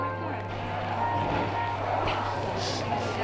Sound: record Scratch

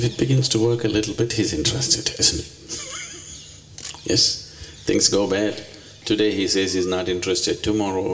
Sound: laughs

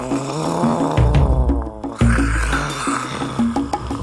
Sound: frustrated groans; dramatic music

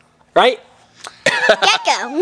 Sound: laughs

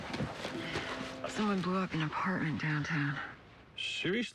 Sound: sighs

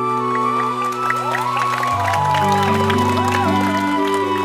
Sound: crowd cheering

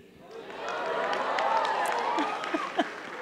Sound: audience cheering; chuckles

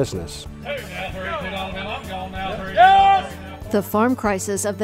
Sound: auction calling

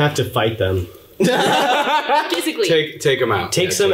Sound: laughing loudly

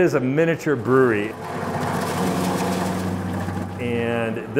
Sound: machine whirring

